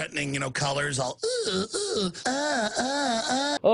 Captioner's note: groaning